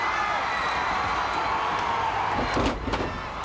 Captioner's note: crowd cheers; body thuds